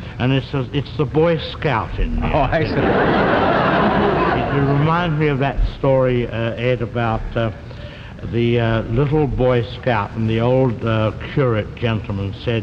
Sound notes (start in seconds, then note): 2.3 audience laughs